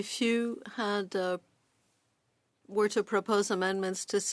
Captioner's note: speaking French